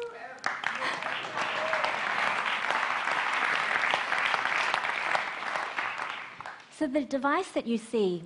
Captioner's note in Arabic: تصفيق